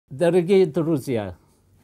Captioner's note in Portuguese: Fala em Russo